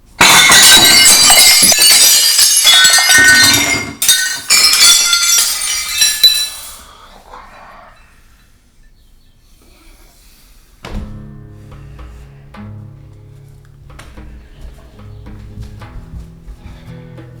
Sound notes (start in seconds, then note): 0.0 dishes crashing; 7.4 whispering to self